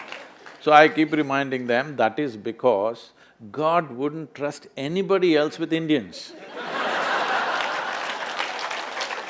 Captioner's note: laughter/Applause